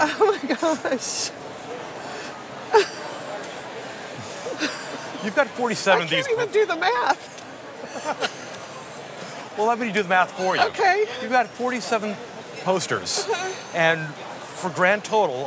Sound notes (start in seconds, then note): 4.2 laughs